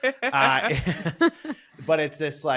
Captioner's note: chuckles